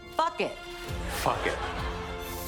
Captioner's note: studio audience laughs